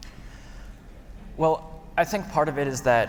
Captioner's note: none